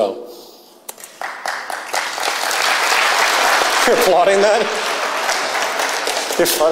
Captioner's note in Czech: potlesk